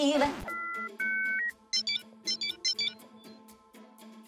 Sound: television beeping

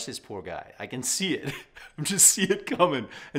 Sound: laughs

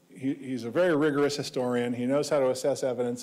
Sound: none

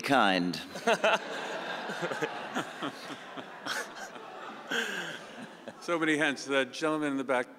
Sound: audience laughing

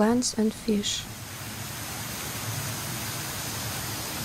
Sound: waterfall noise

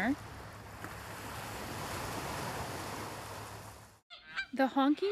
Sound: waves; bird calls

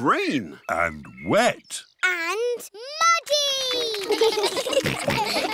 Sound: children giggle

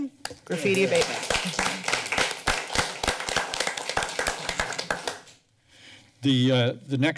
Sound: applause

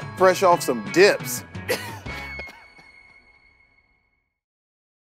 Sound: Dave laughing

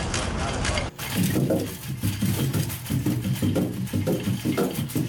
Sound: footsteps thudding

